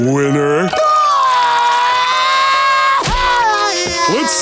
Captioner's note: crying